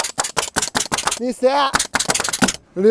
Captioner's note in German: Tacker knallt